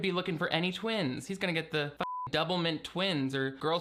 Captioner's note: beep